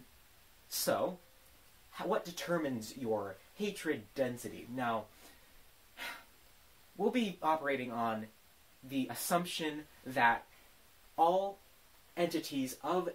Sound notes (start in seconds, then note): 6.0 sigh